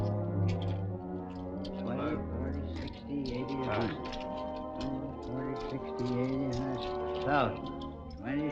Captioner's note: windy and lucky counting out loud